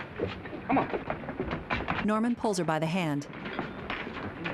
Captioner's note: restaurant din